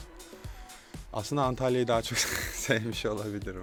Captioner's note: laughs